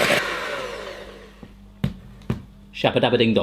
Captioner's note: mixer starts